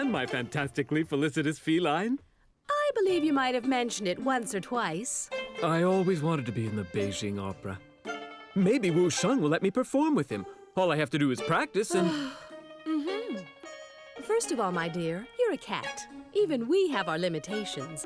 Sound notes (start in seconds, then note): 12.0 sighs